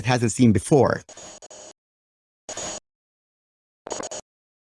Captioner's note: static